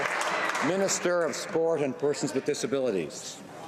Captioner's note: some Applause